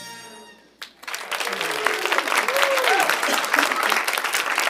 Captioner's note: audience applauding